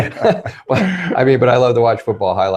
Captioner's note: laughing